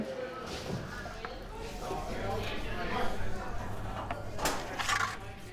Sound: patrons chattering

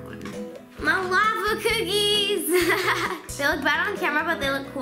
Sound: laughs

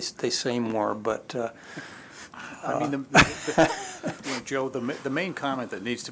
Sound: laughter

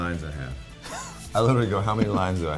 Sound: laughs

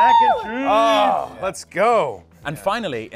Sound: grunts

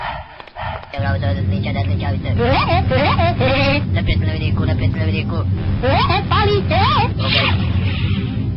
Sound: woody woodpecker laughter

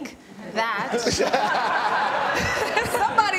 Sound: laughter

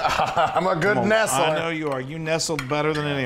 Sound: laugh

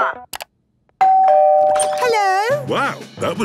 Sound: doorbell ringing

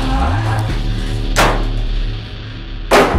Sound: door slams; door is beaten

